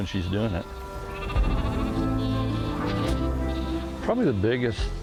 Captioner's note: sheep Baaaing